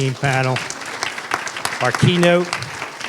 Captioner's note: applause